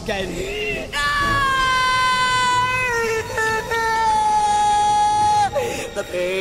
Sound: screaming

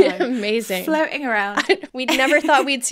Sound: laughing

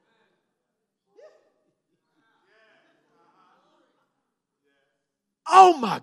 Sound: congregation murmurs

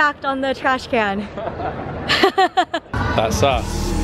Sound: both laugh

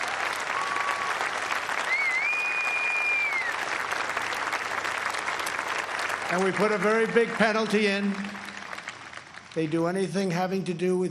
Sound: cheers and applause

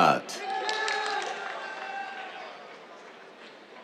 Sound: applause

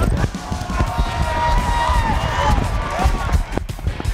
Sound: cheering and applause

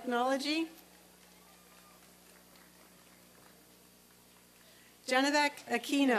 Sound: applause and cheering

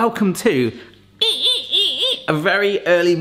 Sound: squeaking

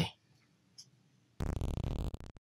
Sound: glitch SFX

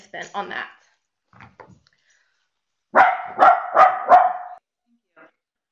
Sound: dog barking

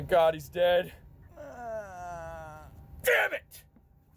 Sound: Herculano groans

